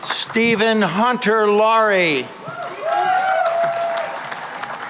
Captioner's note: cheering and applause